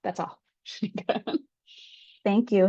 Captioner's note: chuckles